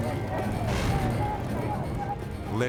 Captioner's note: flames whooshing